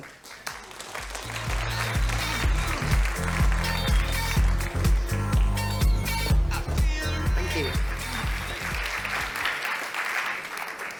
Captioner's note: applause